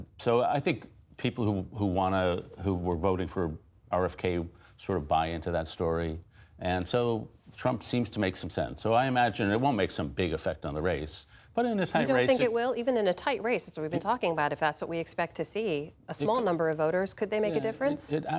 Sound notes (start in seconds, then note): none